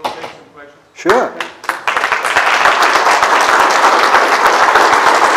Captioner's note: applause